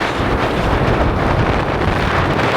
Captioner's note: blizzard & snow storm sounds